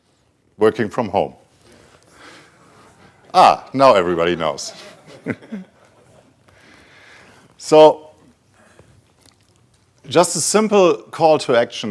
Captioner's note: some late laughs